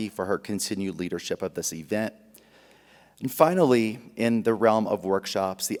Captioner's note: none